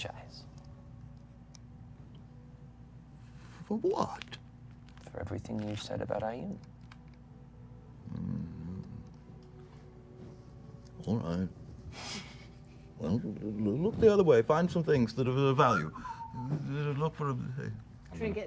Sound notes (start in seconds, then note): 8.0 grumbles; 15.4 whistles